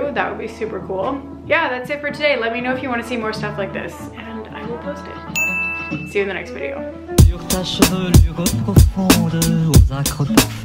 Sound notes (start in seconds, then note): 5.3 ding; 7.1 upbeat music